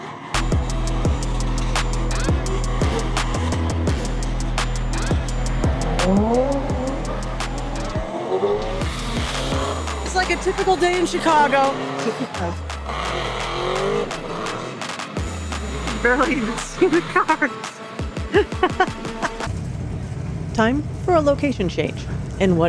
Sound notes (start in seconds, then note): 0.0 upbeat music; 2.4 engine revving; 18.2 laughing